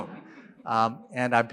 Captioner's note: laughter